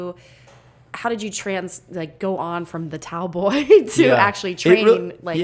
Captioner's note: laughs